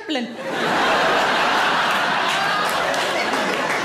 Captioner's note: audience laughing